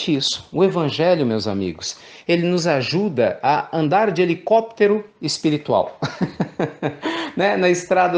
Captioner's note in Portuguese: risos